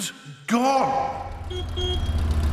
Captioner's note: horn honks